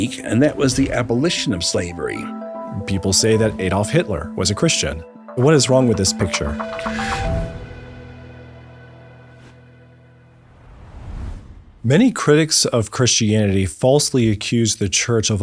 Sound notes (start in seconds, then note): 7.9 dramatic music fades; 11.1 logo swooshes